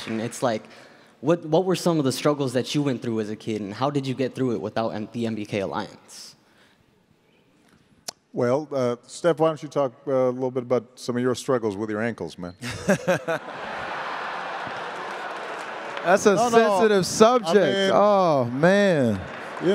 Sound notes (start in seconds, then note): 12.6 attendees laughing